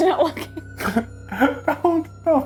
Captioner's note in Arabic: كلاهما يضحك